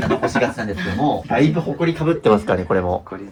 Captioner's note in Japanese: 笑い